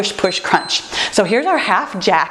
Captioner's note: timer beeps